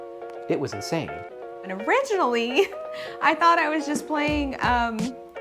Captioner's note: none